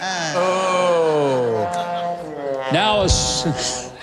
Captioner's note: honking; laughter